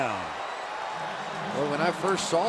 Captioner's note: cheering